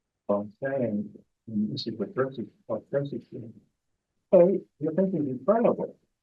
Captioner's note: presenter speaking faintly off mic